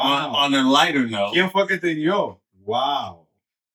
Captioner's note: speaking In Foreign Language